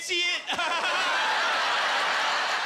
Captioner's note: laughter; laughing maniacally